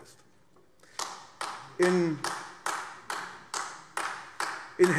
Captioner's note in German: Beifall AfD